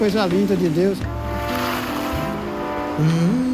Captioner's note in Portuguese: Ondas do mar